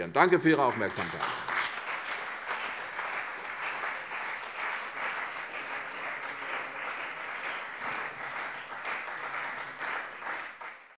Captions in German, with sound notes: - Danke für Ihre Aufmerksamkeit. [Beifall CDU und BÜNDNIS 90/DIE GRÜNEN]